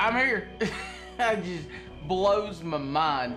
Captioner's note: laughing